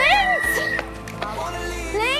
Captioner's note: Pfiff